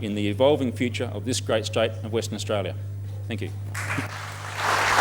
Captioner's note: applause